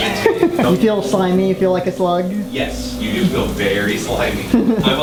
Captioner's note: laughs